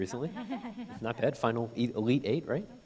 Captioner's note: people laughing